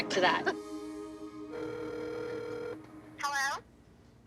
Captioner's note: line ringing; woman on phone